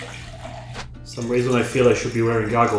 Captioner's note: liquid pouring